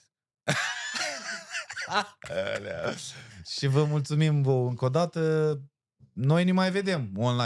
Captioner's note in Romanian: Râsete